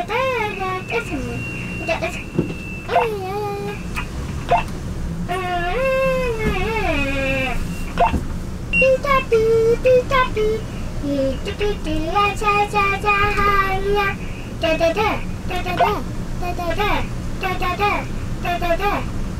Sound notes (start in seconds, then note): 3.0 walkie talkie beeping; 5.2 vocalizing